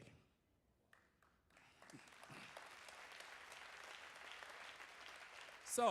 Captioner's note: applause